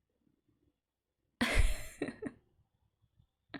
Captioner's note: laughs